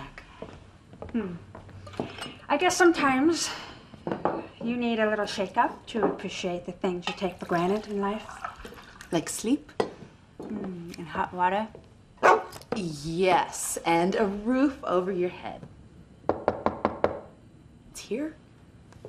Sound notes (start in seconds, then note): 12.2 barking; 16.2 knocking on door